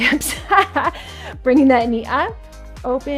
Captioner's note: laughs